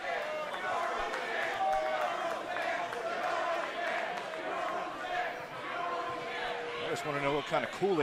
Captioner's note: fans chanting